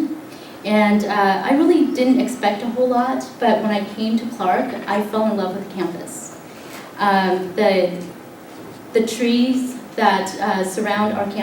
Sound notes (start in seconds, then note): none